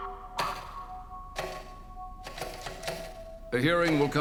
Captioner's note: stenotype keys clicking